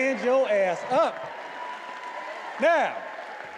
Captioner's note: attendees applauding and cheering